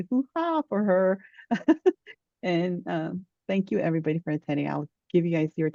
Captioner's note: chuckles